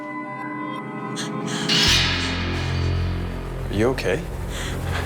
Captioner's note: gasping